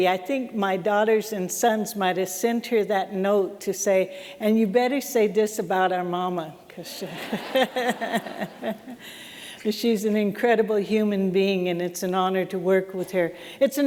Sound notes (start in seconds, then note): 7.1 laughter